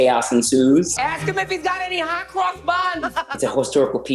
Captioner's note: laughs